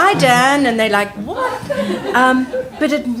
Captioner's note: group laughing